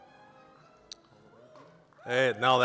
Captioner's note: scattered applause